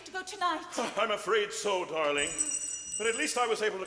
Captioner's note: rings bell